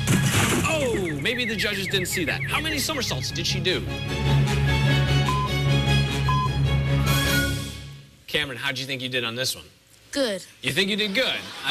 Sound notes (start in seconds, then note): 5.2 electronic beeping